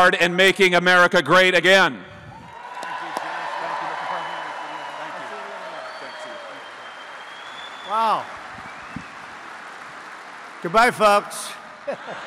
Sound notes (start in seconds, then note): 2.4 applause; 11.8 laughter